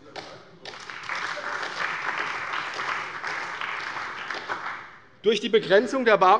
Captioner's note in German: Beifall bei der CDU und dem BÜNDNIS 90/DIE GRÜNEN